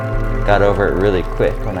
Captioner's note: cheers and applause